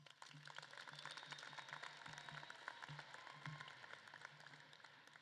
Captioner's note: audience claps and cheers